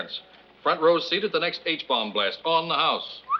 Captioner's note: whistles